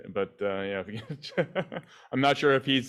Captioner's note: chuckles